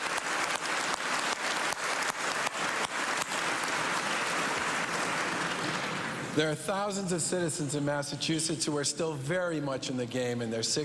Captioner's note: cheers and applause